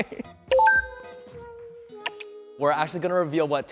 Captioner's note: electronic clicking